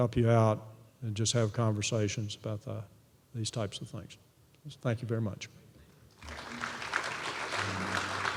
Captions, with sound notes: just have conversations about that, these types of things. So thank you very much. >> [APPLAUSE]